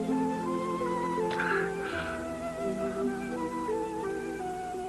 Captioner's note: breathing hard